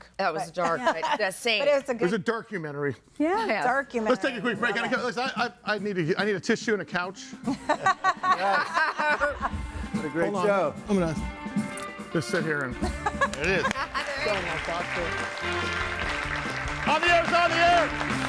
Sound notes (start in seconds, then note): 7.4 laughs; 7.5 audience laughing; 15.5 audience applauding